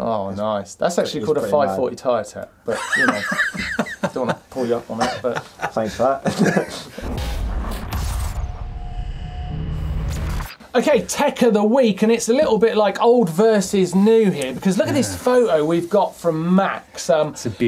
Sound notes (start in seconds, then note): 2.7 laughing; 7.0 electronic buzzing